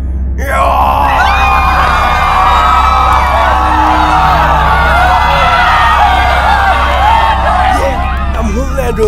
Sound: screams!!

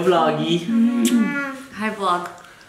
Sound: coos; lips smack

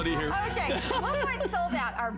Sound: laughter

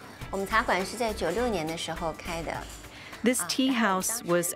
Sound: speaking Chinese

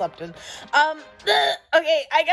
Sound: gagging

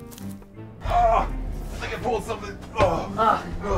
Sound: groans; suspenseful music

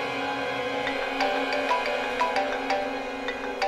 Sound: phone ringing

